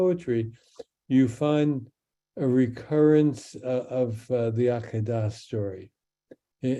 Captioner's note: speaks in Hebrew